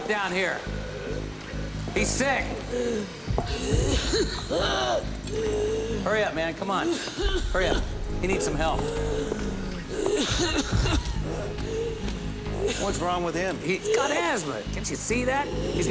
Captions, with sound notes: WE NEED SOME HELP DOWN HERE. HE'S SICK. [COUGHS VIOLENTLY] HURRY UP, MAN. COME ON. HURRY. HE NEEDS SOME HELP. [GAGGING COUGH] WHAT IS WRONG WITH HIM? HE'S GOT ASTHMA. CAN'T YOU SEE THAT?